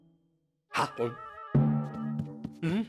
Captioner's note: gulp; foot tapping